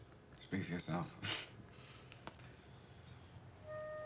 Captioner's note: chuckles